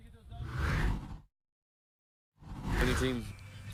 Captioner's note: air whooshing